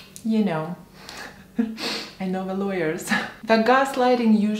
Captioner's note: chuckles